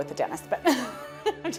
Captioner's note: laughing